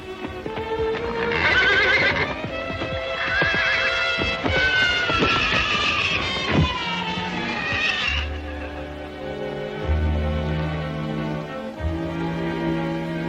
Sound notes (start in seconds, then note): 0.9 horse neighing; 1.2 dramatic music; 9.6 soft suspenseful music